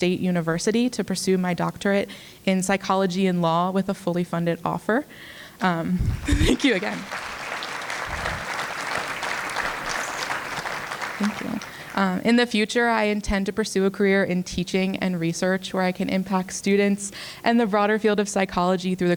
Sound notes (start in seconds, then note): 6.3 applause